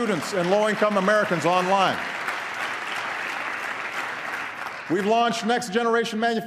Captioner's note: applause